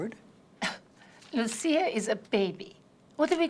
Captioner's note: scoffs